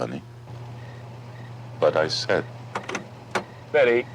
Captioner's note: insects chirping